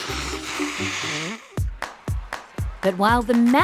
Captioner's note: blows nose